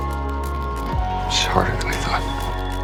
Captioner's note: voiceover